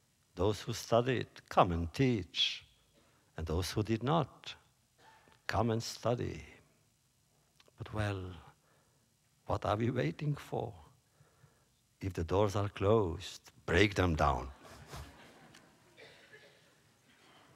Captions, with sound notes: those who studied, come and teach. And those who did not, come and study. But, well, what are we waiting for? If the doors are closed, break them down. (laughter)